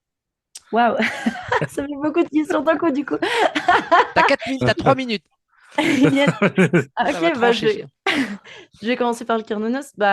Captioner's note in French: rires